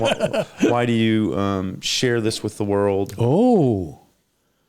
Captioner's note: laughing